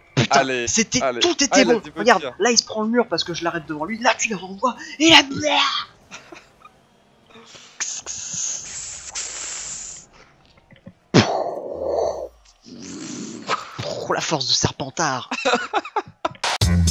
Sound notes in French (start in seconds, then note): 7.8 Bruitages; 15.2 rires